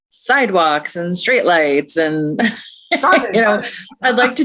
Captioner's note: laughs